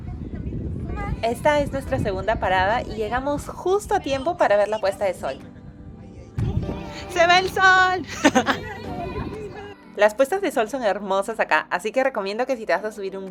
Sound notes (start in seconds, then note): 7.7 laughs